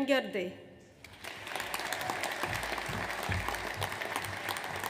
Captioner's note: audience applauds